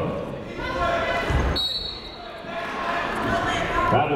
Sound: whistle tweeting

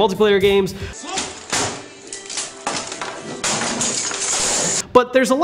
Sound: banging and keyboard hitting floor

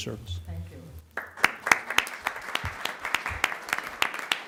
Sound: applause

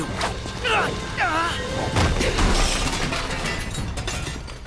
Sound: grunting

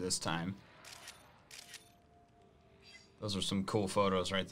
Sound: photo snapping

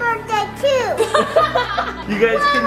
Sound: parents laugh

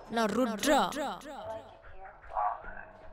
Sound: Sam mumbling, complaining about his phone

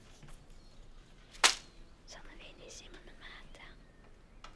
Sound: slapping

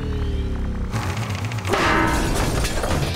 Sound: thudding

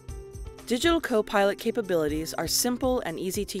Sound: voiceover

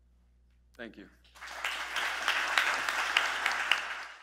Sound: applause

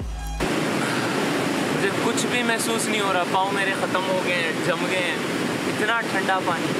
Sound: water burbling

